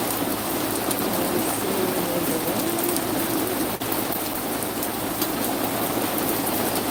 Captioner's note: rain